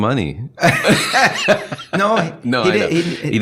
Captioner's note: laughing